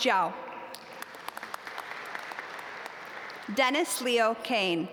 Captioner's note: audience applaud